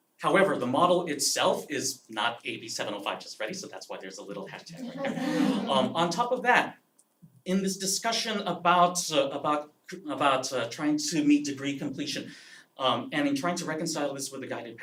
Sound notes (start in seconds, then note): 4.6 laugh